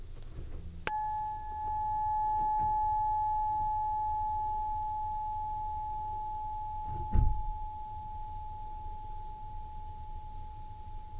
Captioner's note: bell Ring